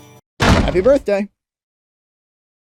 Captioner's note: slam